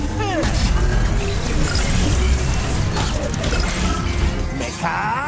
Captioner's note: beeping, whirring, clanking; epic music playing